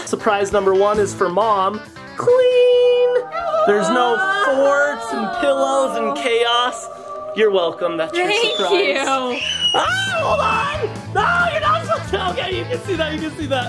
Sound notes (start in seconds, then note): 2.7 angelic effect; 9.3 screaming